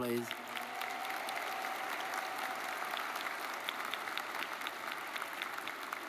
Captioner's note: audience cheers and applauds